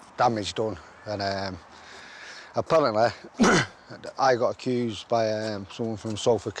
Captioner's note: clears throat